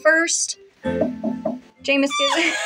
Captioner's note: knocking; cackle; laugh